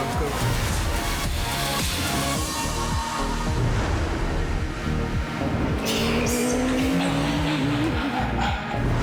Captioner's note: revving engines - techno music playing